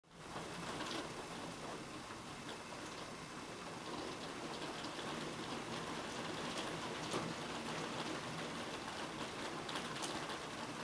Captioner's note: sounds of rain on the window